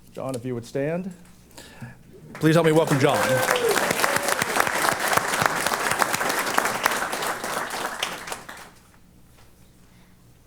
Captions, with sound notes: John, if you would stand. Please help me welcome John. [APPLAUSE]